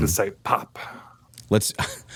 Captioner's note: laughter